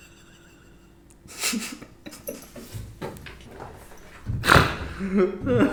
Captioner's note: or maybe it's hysterical laughter